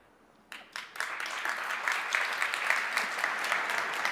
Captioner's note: audience applauds